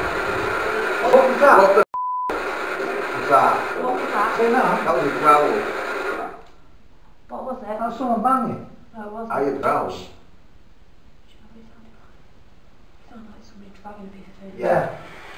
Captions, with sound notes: what was that? What the (beep) was that? What was that? That was growling What was it? That's someone banging No it wasn't I heard a growl Shhh do you know what it sounded like? It sounded like somebody dragging a piece of furniture Lee and Yeah!